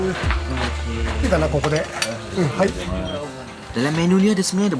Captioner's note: speaking Japanese